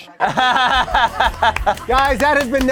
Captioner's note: laughing